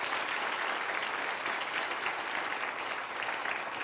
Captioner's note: applause